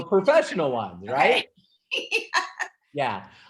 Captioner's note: laughing